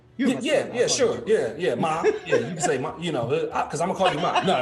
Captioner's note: laughing